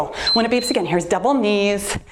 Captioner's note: timer beeps